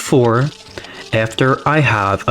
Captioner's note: inhales Oxygen